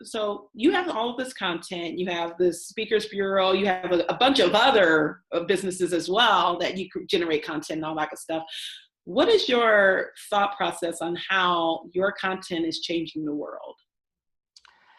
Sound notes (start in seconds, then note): none